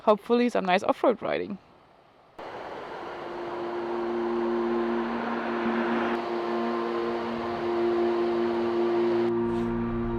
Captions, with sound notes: Hopefully some nice off-road riding. (water rushing) (gentle music)